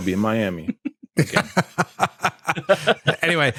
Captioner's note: laughter